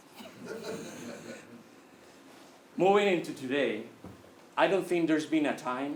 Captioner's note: laugh